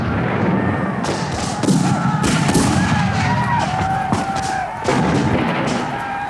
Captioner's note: booming; shouting